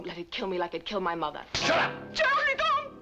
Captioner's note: slapping